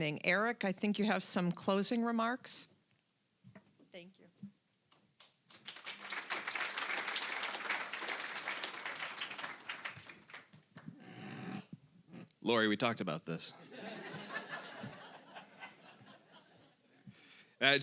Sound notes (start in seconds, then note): 5.4 applause; 13.6 audience laughing